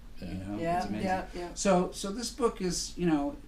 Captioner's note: voiceover